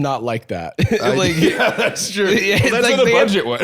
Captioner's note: laughing